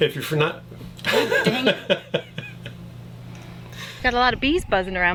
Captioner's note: chuckles